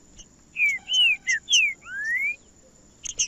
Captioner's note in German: trinca ferro cantando